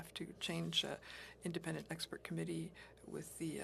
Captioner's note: speaking French